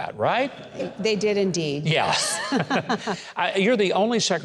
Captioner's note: laughs